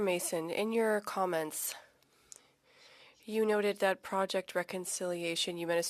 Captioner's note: speaking French